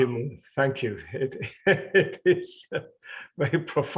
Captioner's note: laughing